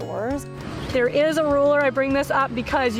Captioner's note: atmosphere humming